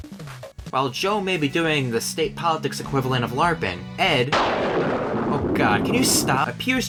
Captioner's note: thunder